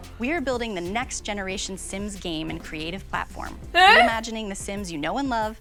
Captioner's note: excited minecraft villager noise